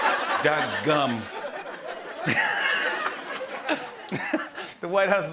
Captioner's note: laughter